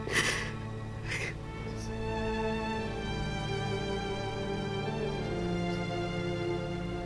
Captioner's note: Rachel cries